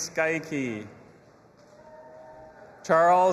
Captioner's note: audience applauding and cheering